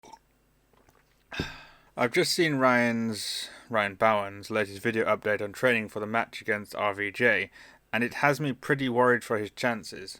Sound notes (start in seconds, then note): 0.0 sip